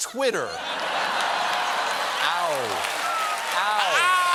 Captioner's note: laughter